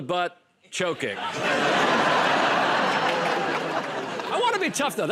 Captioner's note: laughter